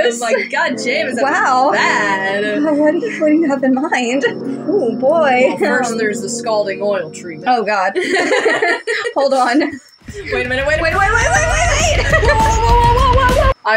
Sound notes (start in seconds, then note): 0.2 sensual Music; 7.6 laugh; 10.0 aggressive Music; 13.4 laugh